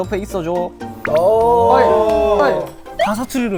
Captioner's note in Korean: 만족스러운 사투리 낭독; 음소거 웃음ing